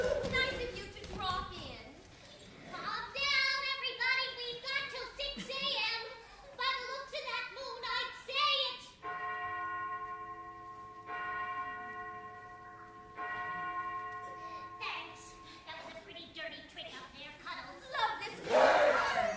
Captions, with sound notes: Nice of you to drop in. Calm down everybody. We've got till six a.m., by the looks of that moon I'd say it's-- [Church bell tolls three times] Thanks. That was a pretty dirty trick up there, cuddles. Love this color.